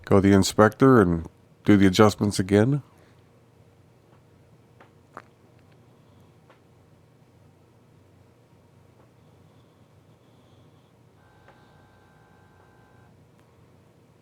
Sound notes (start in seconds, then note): 3.7 silence